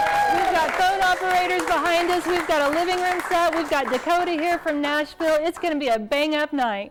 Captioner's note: applause